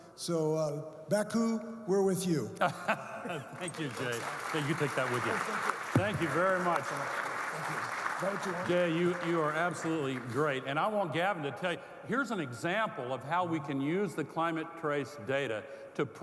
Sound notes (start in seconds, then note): 7.2 audience clapping